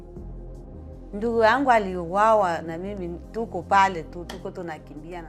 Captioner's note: speaks in Swahili